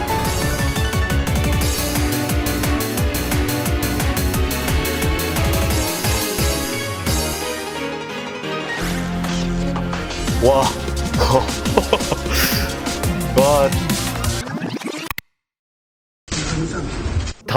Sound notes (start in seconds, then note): 11.1 chuckles; 13.2 laughs in disbelief